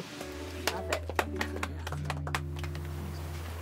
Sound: applause

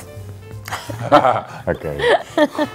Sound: laughing

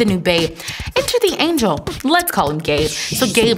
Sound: fun, faster beatboxing with raspberries

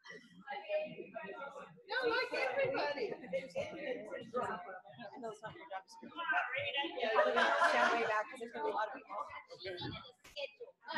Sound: lots of indistinct chatter from crowd

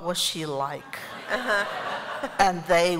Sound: laughter

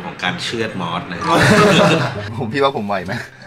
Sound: everyone laughing

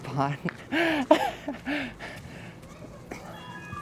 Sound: laughs

